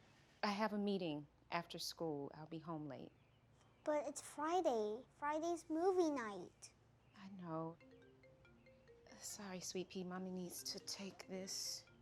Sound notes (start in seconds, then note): 7.8 phone chimes